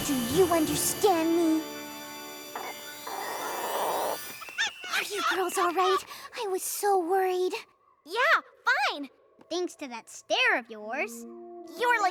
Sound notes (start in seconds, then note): 3.9 clucking